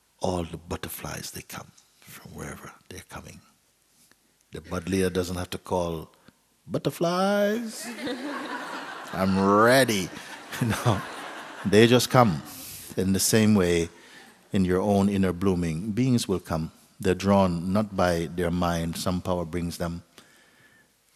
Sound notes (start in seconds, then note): 7.7 laughter; 9.9 Mooji chuckles